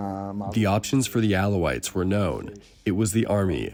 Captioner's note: through translator